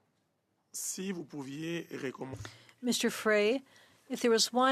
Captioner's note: speaking French